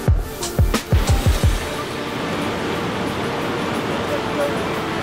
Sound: water rushing

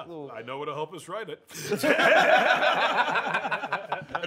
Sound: laughter

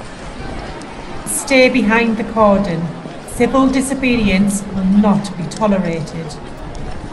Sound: noise from crowds

